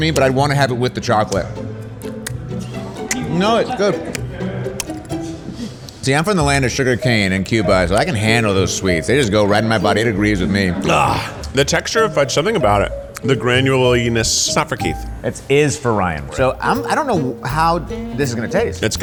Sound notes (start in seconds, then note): 1.8 smacking lips